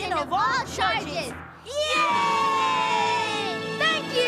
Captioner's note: cheering